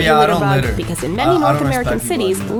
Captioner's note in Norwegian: mumle